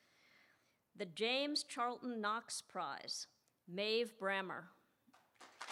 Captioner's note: applause